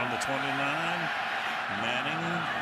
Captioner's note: pa announcement